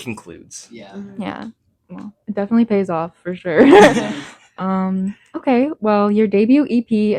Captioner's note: laughs